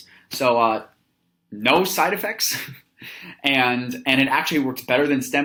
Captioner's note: chuckles